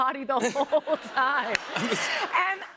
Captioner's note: laughter